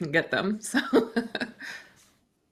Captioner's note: chuckles